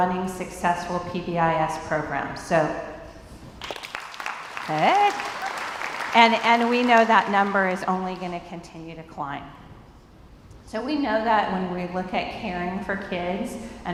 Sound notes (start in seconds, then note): 3.6 crowd applauds